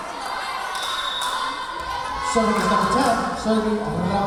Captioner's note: whistle blowing